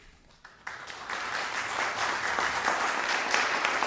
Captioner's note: applause